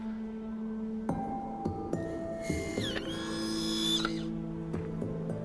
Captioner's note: camera whirring